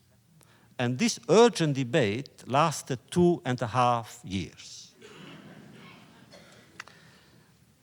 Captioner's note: laughter